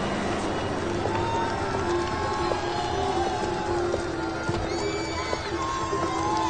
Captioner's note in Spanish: Aclamaciones